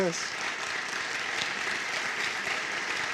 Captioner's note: applause